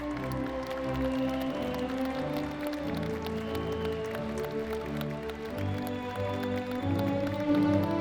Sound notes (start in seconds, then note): 0.0 audience members applauding